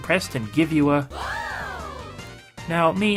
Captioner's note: game audio